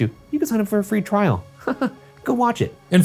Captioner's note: chuckling